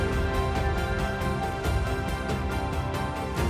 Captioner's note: fans cheering